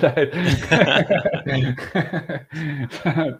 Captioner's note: laughing